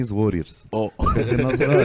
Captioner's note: laughs